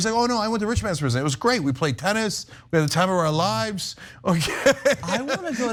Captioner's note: laugh